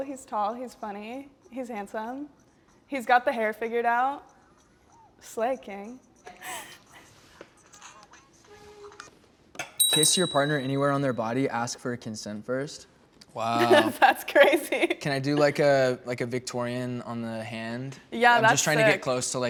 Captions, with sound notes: He's tall, he is funny. He's handsome. He's got the hair figured out. Slay, king. - Kiss your partner anywhere on their body. Ask for consent first. Wow! - That's crazy. (laughs) - Can I do like a, like a Victorian on the hand? - Yeah, that's sick.